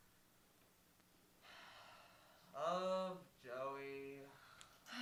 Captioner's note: sigh